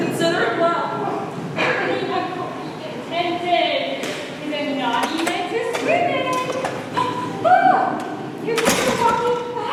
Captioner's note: door opens offscreen